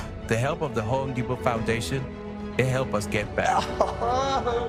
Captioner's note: laughter